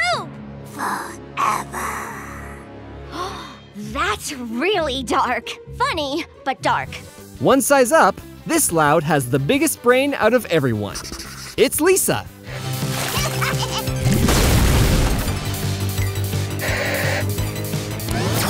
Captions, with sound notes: Forever. [gasping] That's really dark. Funny, but dark. One size up, this Loud has the biggest brain out out of everyone. It's Lisa. [laughing]